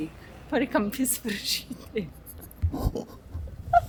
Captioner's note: laughing